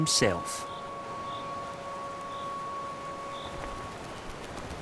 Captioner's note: cricket chirping